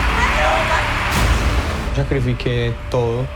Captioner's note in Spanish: en español